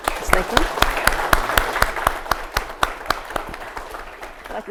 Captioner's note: audience applauding